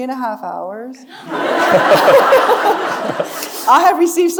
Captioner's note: audience laughing